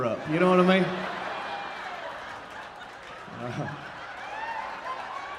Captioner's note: audience laughing